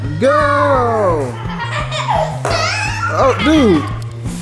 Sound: laughter

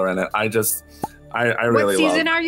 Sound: pop

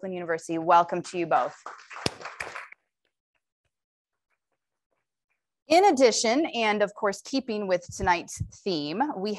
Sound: applause

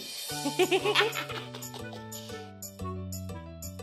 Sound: chuckling; playful music

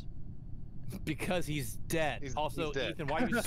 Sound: laughter

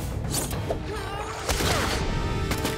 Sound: grunting

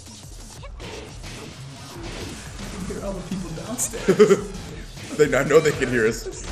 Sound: laugh

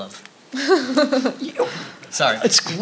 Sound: laughing

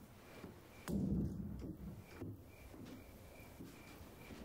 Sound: door slams

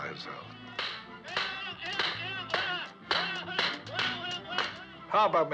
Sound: shouting; blows Landing

